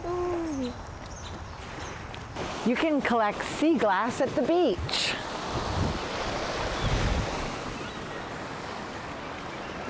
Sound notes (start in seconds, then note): 5.6 waves lapping